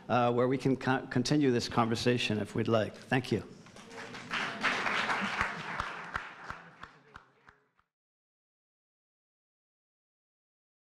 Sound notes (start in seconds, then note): 3.8 audience applauding